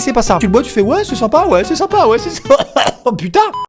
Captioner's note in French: bruit d'étouffement